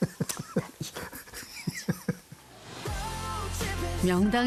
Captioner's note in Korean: ㅎㅎㅎㅎㅎㅎㅎ